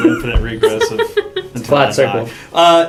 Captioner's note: laugh